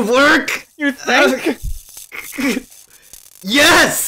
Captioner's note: sizzling; strained; fizzling